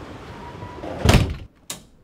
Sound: door slams; light switch flicks on

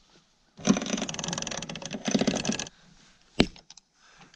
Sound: chain rattles

